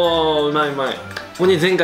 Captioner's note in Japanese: 拍手